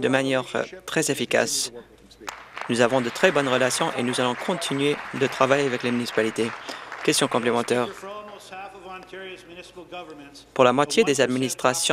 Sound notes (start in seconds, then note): 6.3 applause